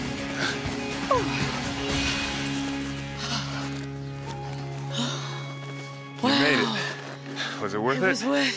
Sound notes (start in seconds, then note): 1.2 breathing heavily